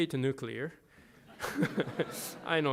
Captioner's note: laughter